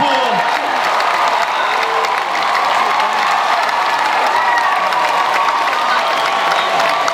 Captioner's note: audience cheers and applauds